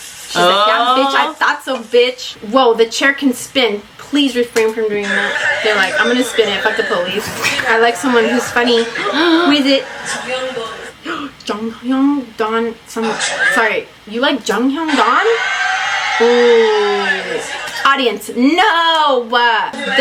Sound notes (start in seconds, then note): 7.4 laughs; 8.9 both gasp; 11.2 gasps